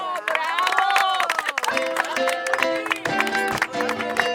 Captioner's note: applause